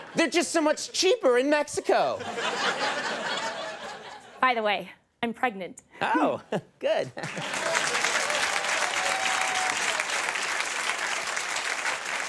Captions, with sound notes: They're just so much cheaper in Mexico. (laughter) By the way. I'm pregnant. Oh. Good. (crowd applause)